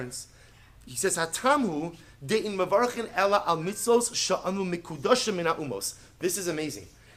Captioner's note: Hebrew